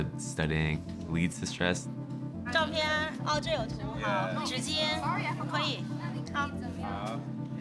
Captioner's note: teacher speaking Mandarin